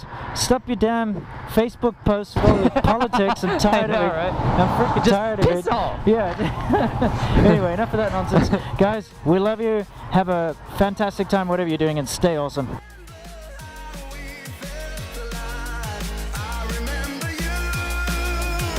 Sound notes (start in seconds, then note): 6.3 laughing